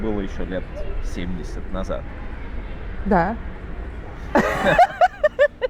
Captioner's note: both laughing